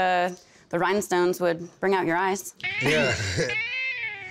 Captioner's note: chuckles